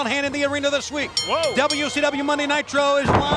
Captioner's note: bell rings